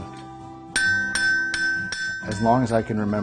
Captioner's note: hammering